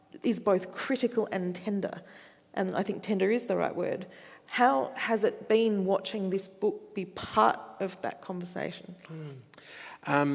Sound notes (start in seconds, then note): none